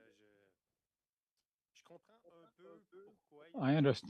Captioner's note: speaking French